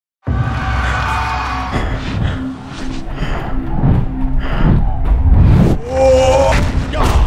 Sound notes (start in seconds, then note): 0.2 crowds cheering; 0.7 intense breathing